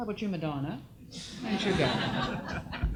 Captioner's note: audience laughs